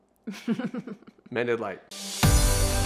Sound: laughing

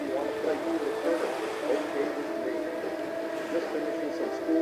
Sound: radio continues to play

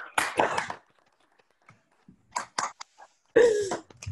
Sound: Zoom audience applauds new inductees

